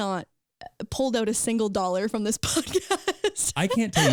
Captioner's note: laughing